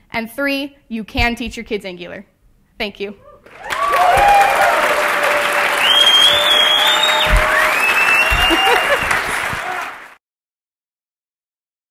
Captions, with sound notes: And three, you can teach your kids Angular. Thank you. [CHEERS FROM AUDIENCE] [LAUGHS]